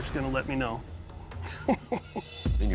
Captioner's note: laughs